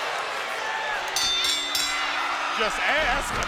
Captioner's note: bell rings